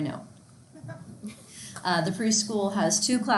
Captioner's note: students chuckle